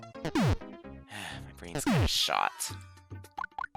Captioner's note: sigh